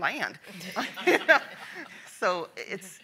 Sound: panel laughs

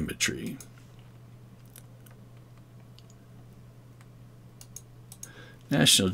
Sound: mouse clicking

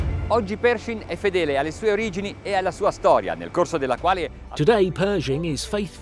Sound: speaking foreign language

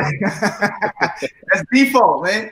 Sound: all laughing

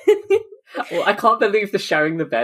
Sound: laughing

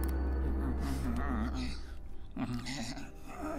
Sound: mumbles

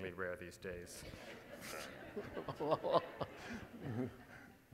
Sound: audience laughing

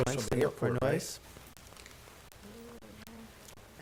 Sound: mumbling

